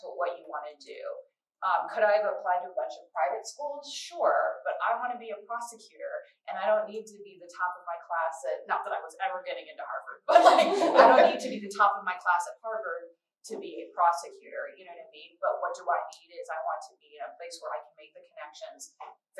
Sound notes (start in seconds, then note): 10.3 laughter